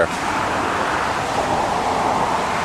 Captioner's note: traffic Noise